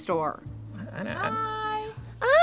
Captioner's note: stammers; squeals nervously